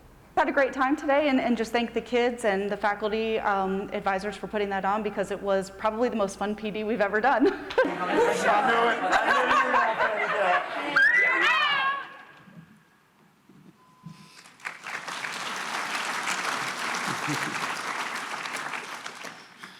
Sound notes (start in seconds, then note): 7.8 crowd noise; 14.3 applause